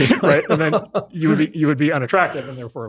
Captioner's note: laughs